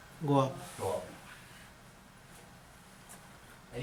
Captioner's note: voiceover